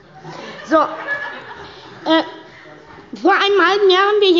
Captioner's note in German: Heiterkeit bei der SPD